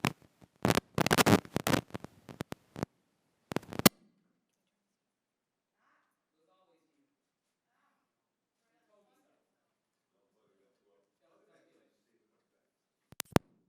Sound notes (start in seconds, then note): 1.5 crackling microphone sounds